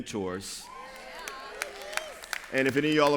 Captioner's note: cheers